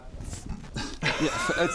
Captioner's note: laughs